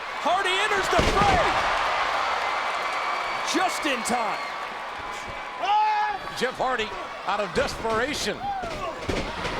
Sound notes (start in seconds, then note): 1.0 body thuds; 1.5 audience cheering